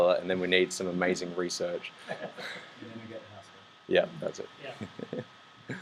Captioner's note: laughs